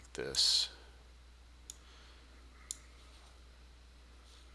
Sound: sound of mouse clicking

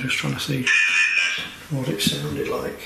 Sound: alert sounding

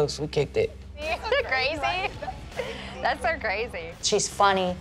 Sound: laughing

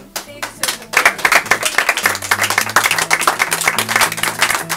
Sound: audience claps

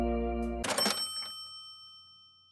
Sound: bell ringing

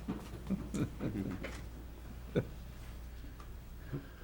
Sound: laughter

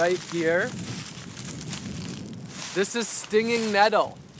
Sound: rustling sounds

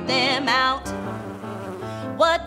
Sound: bees buzzing

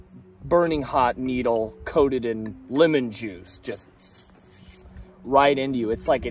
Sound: tssss

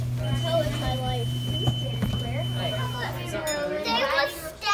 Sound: elevator beeping

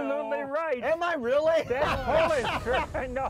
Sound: laughs

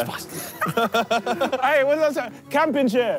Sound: all laughing

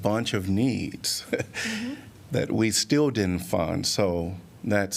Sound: laughter

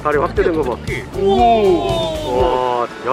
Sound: exclamation

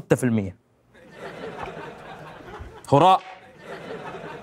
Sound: throwing paper

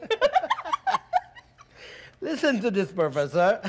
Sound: Sharik lightly chuckles; Zina lightly giggling; doctor lightly laughing

